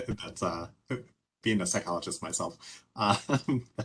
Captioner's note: laughing